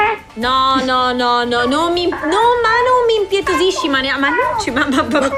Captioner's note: pleading chirp